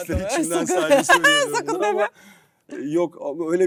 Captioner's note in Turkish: kahkaha